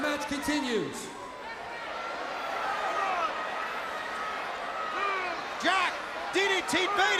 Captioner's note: crowd cheering